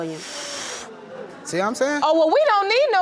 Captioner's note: huffing